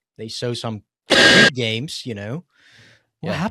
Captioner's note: laughs; sneezes